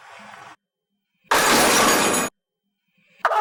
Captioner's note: tools clattering